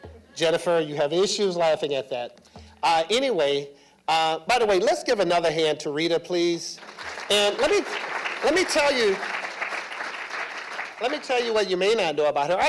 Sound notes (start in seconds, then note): 6.7 applause